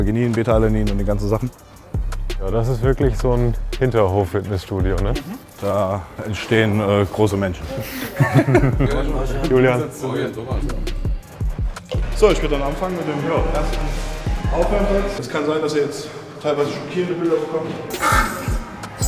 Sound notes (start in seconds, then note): 7.8 both laugh